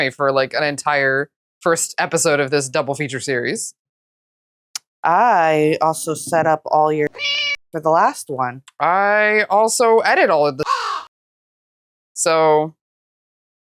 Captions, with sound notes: for, like, an entire first episode of this double feature series. I also set up all your [MEOW] for the last one. I also edit all of the [CAW] so...